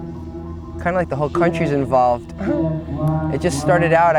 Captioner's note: laughs